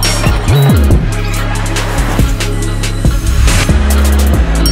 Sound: sound effects

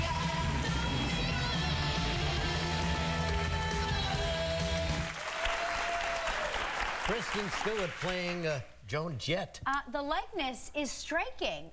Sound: applause

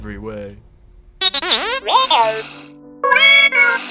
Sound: beeps

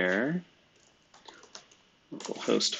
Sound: computer keyboard clicking

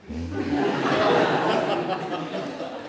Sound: laughter

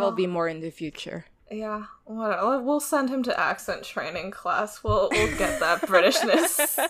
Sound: laughs

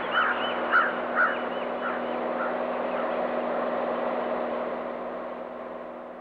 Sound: airplane sounds

